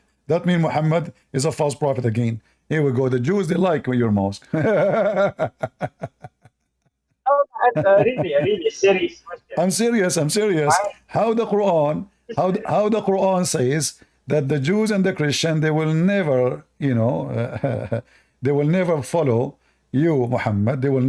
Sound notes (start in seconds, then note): 4.5 Ketawa